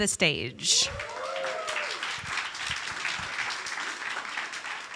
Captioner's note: audience applauding